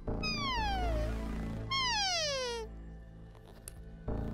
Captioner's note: animal call